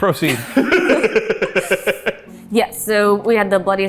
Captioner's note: laughs